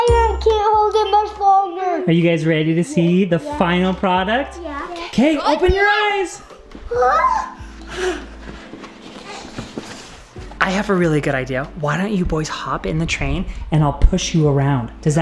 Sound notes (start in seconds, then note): 6.9 exclaims